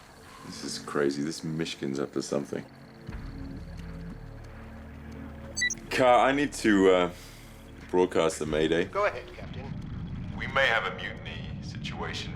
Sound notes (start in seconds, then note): 5.5 beeps